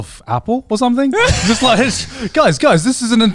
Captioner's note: laughing